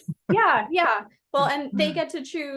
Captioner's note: laughing